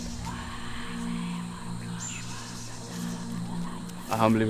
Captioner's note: multiple evil spirit voices